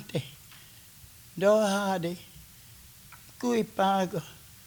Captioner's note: speaking Kiowa